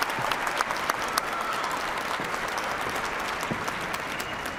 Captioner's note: cheers and applause